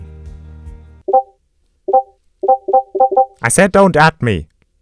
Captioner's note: Discord ping sounds